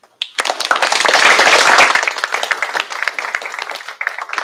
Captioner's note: applause